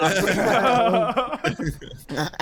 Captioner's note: all laughing